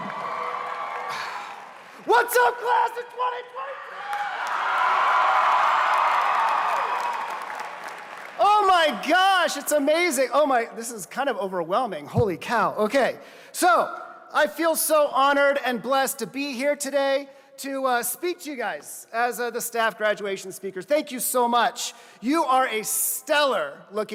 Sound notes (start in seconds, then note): 0.0 applause; 8.0 applause